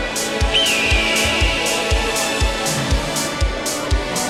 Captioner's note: hawk screech